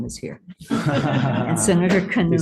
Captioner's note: laughing